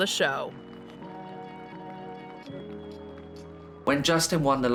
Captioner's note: gentle music; attendees clapping